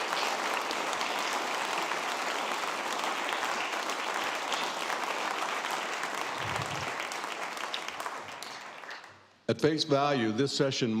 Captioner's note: applause